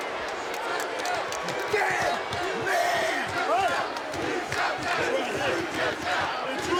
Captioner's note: audience jeers; audience chanting and clapping